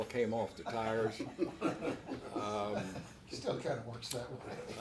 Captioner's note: everyone laughs